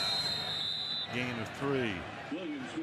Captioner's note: whistle blowing